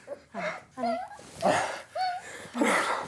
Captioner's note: dog whining; Chris gasping